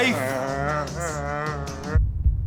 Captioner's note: moaning